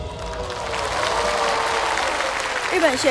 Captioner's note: the audience applauds